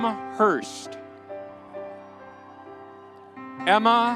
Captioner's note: audience cheering